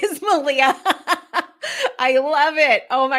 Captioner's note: laughs